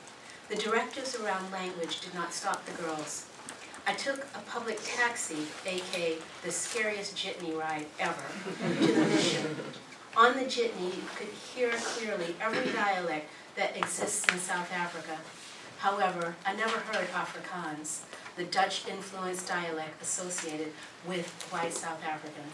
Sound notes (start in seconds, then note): 8.4 laugh